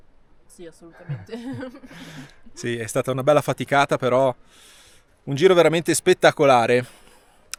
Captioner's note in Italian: risate